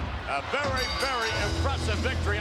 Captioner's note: bell ringing